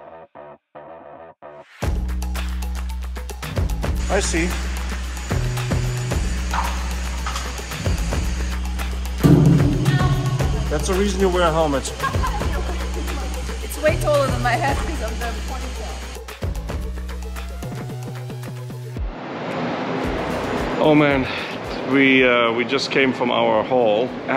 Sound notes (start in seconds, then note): 0.2 bright upbeat music; 9.2 steel wall thuds; 11.9 laughs